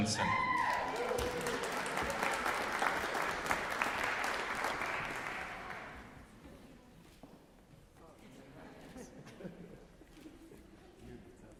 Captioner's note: applause